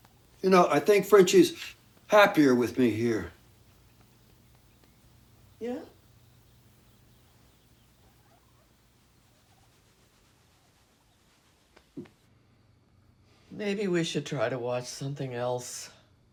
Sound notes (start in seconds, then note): none